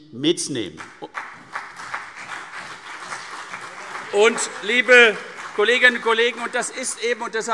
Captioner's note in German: Beifall CDU und BÜNDNIS 90/DIE GRÜNEN